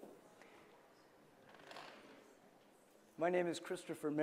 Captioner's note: background murmuring